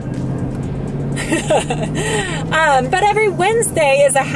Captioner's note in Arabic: أمي تضحك